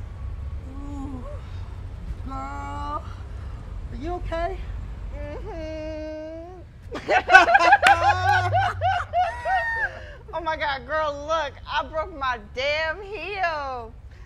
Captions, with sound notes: - Girl, are you okay? - Mm hmm. (laughs) Oh my God, girl, look, I broke my damn heel.